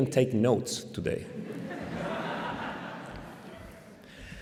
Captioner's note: laughter